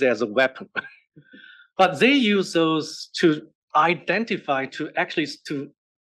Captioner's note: laugh